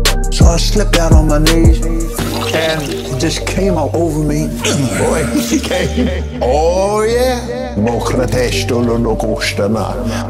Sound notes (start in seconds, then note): 4.6 grunt; 7.7 speaking in tongues dirty talk